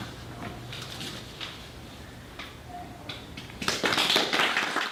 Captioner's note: audience applause